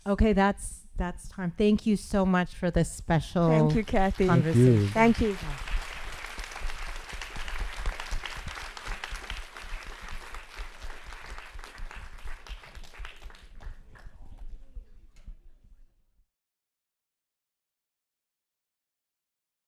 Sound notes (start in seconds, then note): 6.2 audience applauding